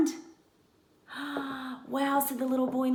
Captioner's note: gasp